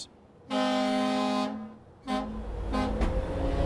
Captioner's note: horns blaring